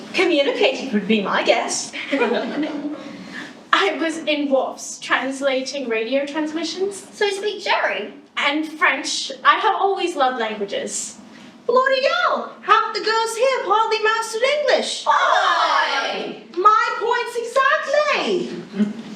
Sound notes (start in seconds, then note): 2.0 giggles